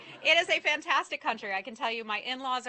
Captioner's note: laughter